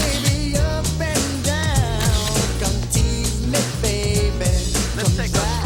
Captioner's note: camera shutter clicks; camera shutter clicks